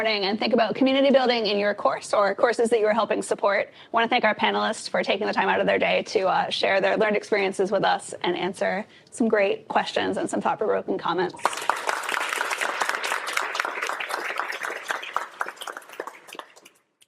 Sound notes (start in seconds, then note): 11.4 applause